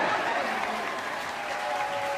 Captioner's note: congregation clapping